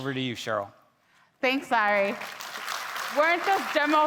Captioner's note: attendees clapping